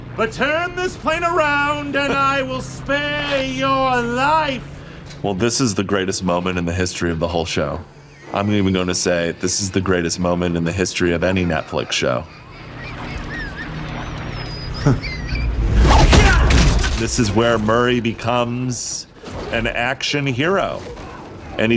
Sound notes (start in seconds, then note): 13.1 Yuri laughing